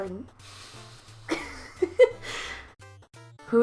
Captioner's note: laughs